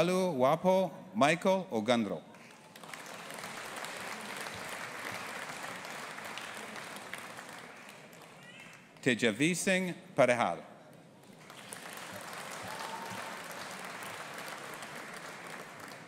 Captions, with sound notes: Aanuoluwapo Michael Ogunro. (AUDIENCE APPLAUDING) Tejasvee Singh Parihar. (AUDIENCE APPLAUDING)